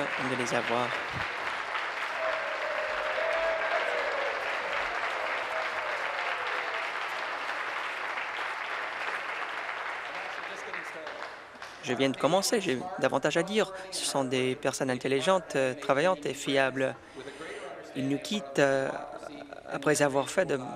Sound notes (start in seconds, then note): 3.0 applause; 5.5 cheering